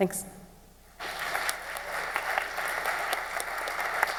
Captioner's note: clapping